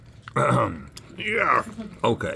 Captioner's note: clears throat